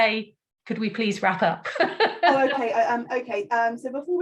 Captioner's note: laughs